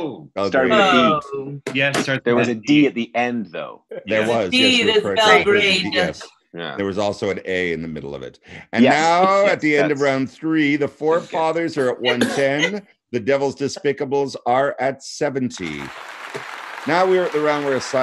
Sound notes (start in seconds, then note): 15.5 audience applauding